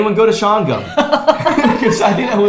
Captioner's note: both laughs